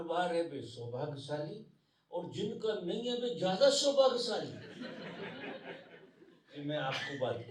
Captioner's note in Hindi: हंसी